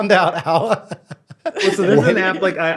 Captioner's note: laughing